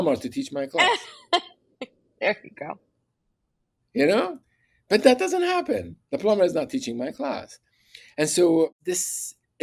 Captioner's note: laughs